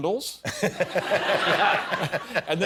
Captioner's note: laughter